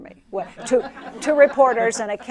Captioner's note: laughter